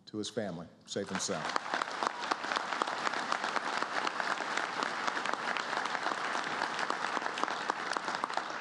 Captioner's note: applause